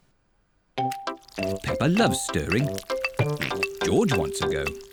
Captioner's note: oinks